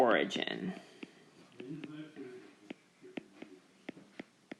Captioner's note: keyboard Tapping